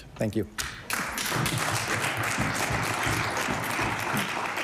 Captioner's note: applause